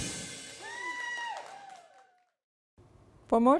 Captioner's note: cheers and applause